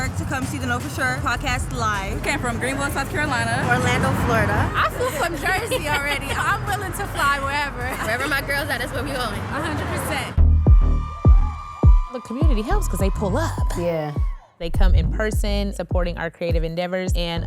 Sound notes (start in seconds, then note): 10.6 deep rhythmic music; 11.5 crowd cheering happily